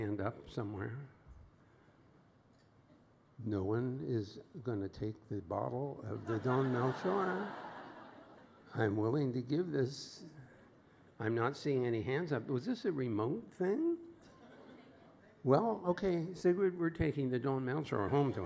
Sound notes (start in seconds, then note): 6.0 laughter